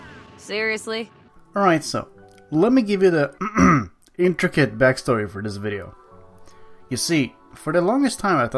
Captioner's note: clears throat